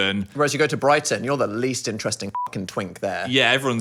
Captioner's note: beep